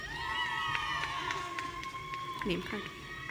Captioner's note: audience cheering